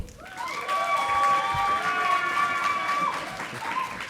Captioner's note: audience applauding